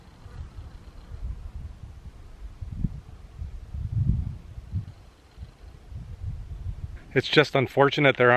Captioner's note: wind blowing